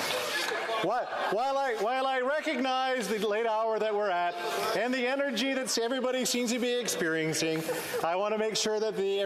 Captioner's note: laughter